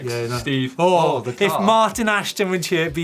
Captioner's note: gasps